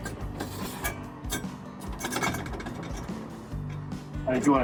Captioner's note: metal clanking